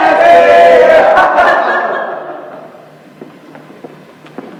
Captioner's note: voices laugh jeeringly